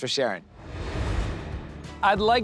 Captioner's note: air whooshes